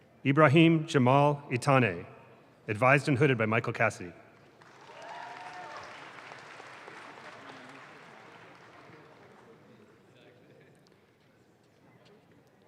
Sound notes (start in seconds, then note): 4.4 audience claps